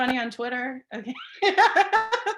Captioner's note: laughing